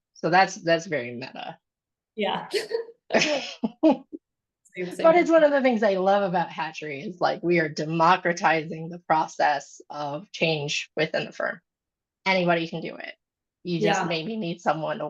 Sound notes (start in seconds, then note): 2.5 laughs